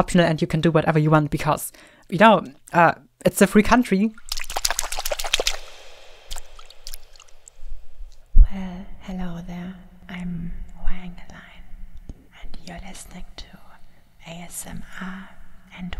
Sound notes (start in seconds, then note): 4.0 water splashing